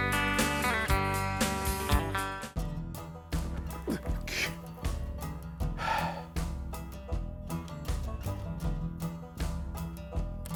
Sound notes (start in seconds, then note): 3.7 grunting; 5.7 sighs